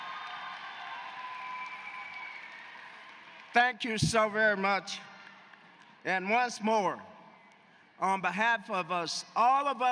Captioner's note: cheers and applause